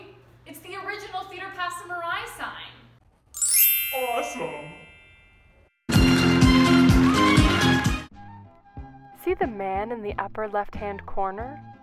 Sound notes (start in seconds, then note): 2.9 edited in a deep voice